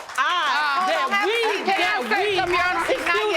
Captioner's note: audience applauding